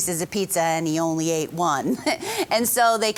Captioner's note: laughing